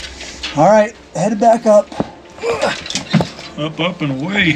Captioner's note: groans